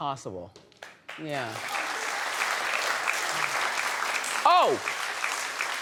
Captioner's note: audience clapping